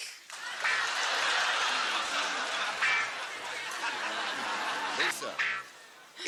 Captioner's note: laughter